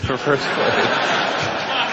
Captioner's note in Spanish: Risas; Aplausos